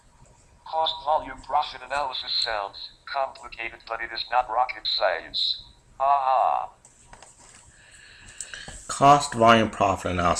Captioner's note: Stephen Hawking voice